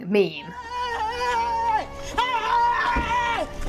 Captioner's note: screaming